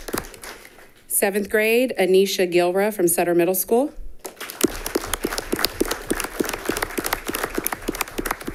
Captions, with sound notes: Seventh grade, Anaisha Gilra from Sutter Middle School. (all clapping)